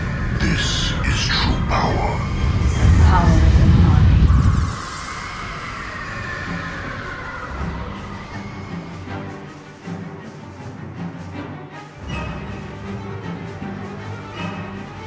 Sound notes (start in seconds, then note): 4.2 electrical matrix sizzling; 4.2 extra-dimensional cries and shrieks